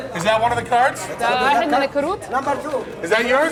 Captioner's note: non-english speech